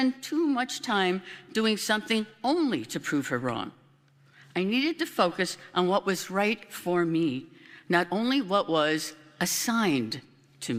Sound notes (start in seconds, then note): none